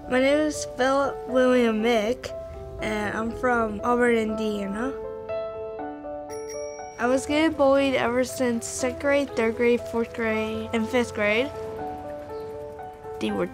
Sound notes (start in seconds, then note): 6.3 bicycle bell rings